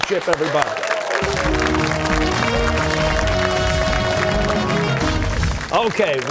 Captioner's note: cheers and applause